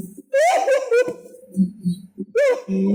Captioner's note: weeping